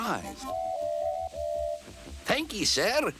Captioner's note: tooting